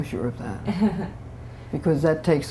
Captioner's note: laughter